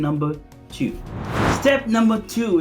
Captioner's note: air whooshing